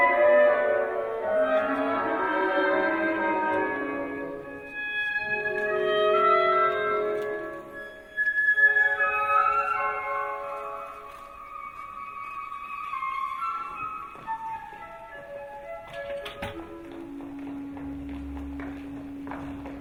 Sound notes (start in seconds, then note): 16.7 feet tapping